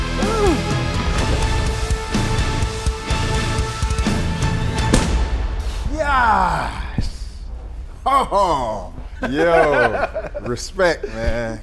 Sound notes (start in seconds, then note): 4.9 pads thudding louder; 9.2 laughing